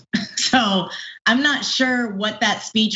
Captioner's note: laugh